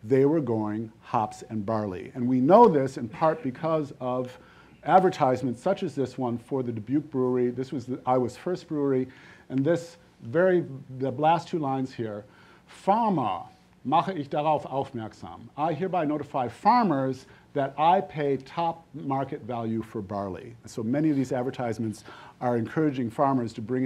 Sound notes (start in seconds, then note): 12.1 speaking foreign language